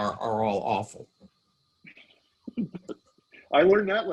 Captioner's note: laughing